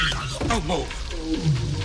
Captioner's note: screaming